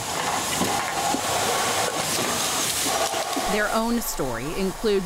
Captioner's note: machinery whirring